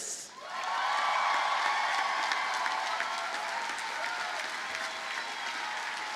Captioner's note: audience cheers and applauds